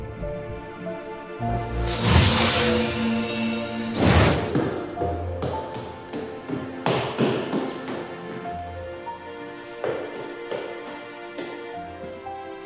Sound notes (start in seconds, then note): 0.3 suspenseful music; 4.0 light swooshes; 9.4 suspenseful music